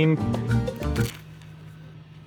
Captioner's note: camera clicks